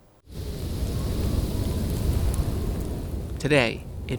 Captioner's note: wind howling